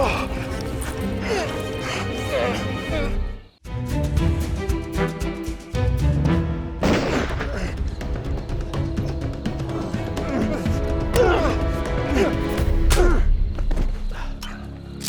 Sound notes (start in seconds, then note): 6.8 gunshot